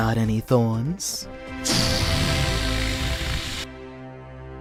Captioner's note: deflating sounds; scary, triumphant music